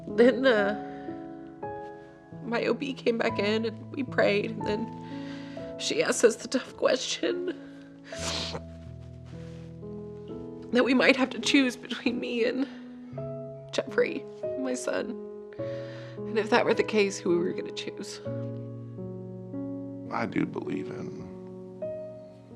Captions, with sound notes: Then my OB came back in and we prayed and she asked us the tough question. (sniffs) That we might have to choose between me and Geoffrey, my son. And if that were the case, who were we gonna choose? - I do believe in